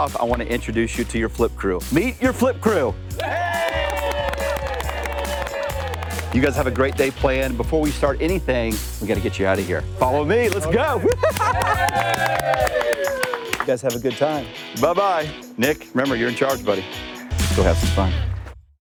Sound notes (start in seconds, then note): 3.2 crew applauds; 11.0 flip crew cheers